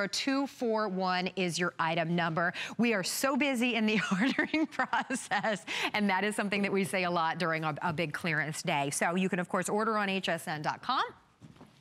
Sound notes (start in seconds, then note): 4.0 laughter